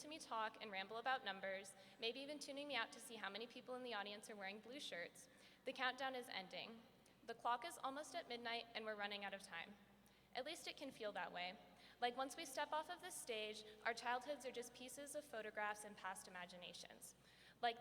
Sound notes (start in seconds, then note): none